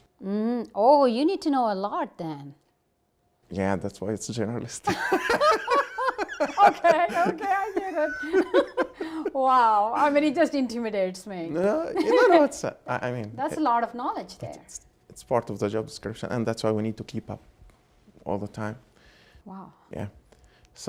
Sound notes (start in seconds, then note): 4.8 Gingrich and Bullis laugh; 11.6 Gingrich laughs